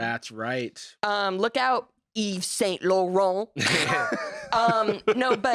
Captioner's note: laugh